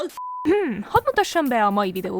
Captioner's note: clears throat